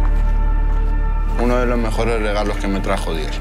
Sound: footsteps crunching on ground

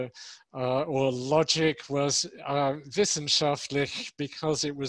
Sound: speaks in foreign language

